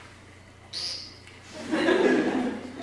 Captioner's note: woodcock noise